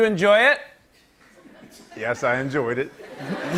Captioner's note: laughter